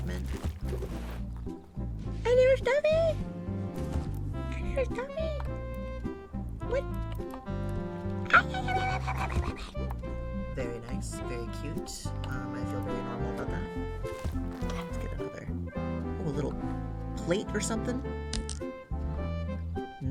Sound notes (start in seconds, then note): 8.0 barks excitedly